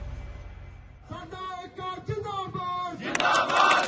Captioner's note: man shouting in foreign language; chanting in foreign language; man shouting in foreign language